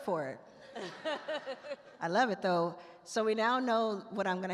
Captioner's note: attendees laugh